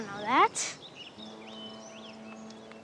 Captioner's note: birdsong; ship's horn blowing in distance